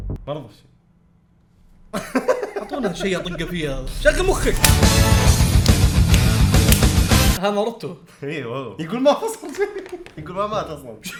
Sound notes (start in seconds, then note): 1.9 laughs